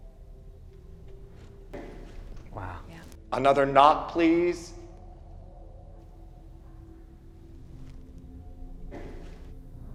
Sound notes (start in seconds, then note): 1.7 soft bang; 8.9 soft bang